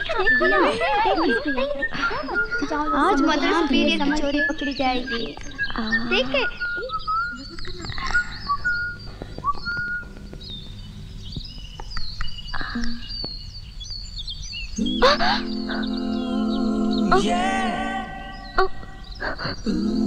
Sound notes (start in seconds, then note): 8.0 whistling; 11.9 birds Chirping